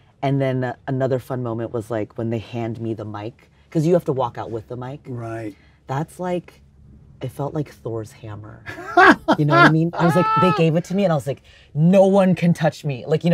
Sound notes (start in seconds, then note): 8.7 Tony laughs